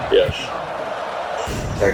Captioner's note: crowd Noises